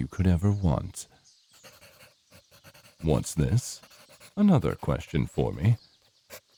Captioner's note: pencil scribbling